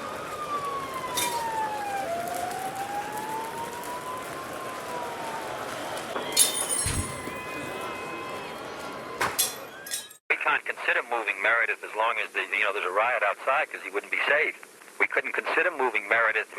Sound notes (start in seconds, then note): 0.2 siren blaring; 6.2 glass breaking; 7.2 crowd murmuring